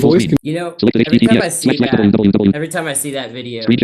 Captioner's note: screen reader narrating rapidly